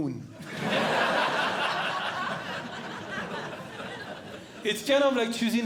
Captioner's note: audience Laughing